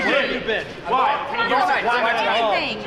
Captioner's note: indistinct chatter